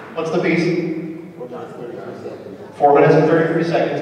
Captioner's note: audience answers